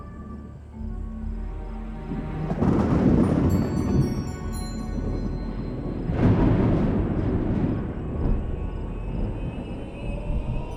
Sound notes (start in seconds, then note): 0.0 ominous music continues; 2.0 louder, closer thunder crashing